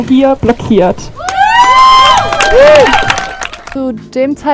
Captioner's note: applause